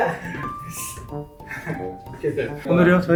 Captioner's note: trudging